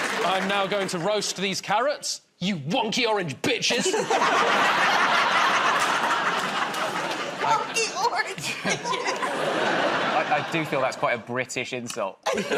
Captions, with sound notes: -I'm now going to roast these carrots. You wonky orange bitches! [ Laughter ] -"Wonky orange bitches"! -I do feel that's quite a British insult.